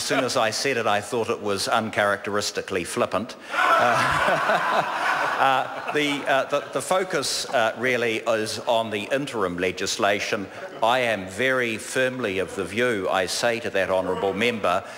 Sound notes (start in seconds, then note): 3.5 members laugh